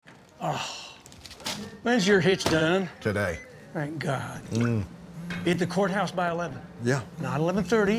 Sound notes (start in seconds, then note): 0.4 Nathan sighs